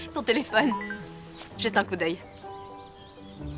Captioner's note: phone chimes